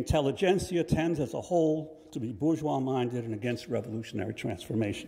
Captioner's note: none